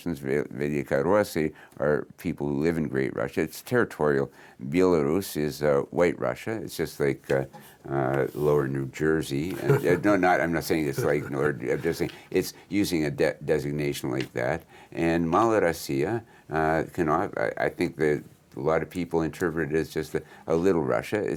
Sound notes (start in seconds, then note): 9.5 laughs